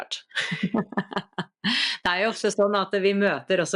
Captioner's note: laughter